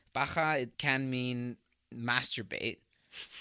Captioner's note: chuckles